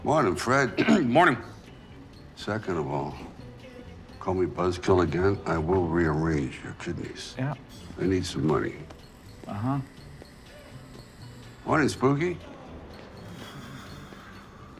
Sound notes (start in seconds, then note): 0.6 throat clears